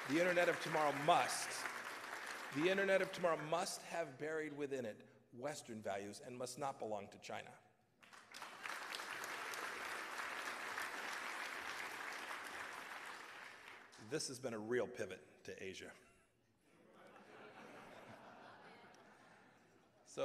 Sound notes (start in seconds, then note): 0.0 applause; 12.1 applause; 16.6 laughter